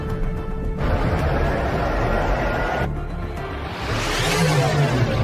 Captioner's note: rising synth music; ship engine revs